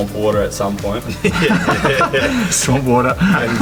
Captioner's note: all laughing